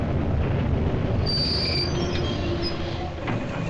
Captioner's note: brakes squealing